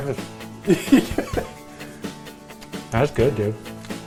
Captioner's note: laughs